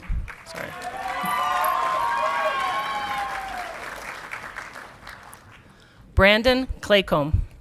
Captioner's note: audience clapping and cheering